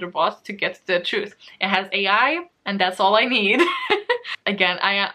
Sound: laughs

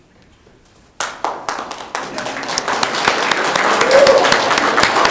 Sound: audience clapping

